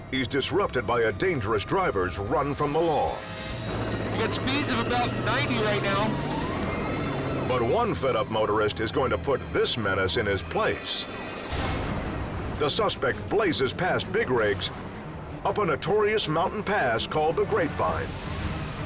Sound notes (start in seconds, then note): 6.7 engine revving; 6.7 siren wailing